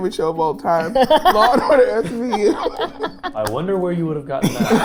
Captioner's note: laughing